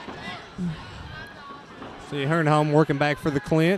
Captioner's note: crowd noise